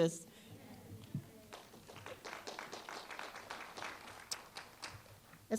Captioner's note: applause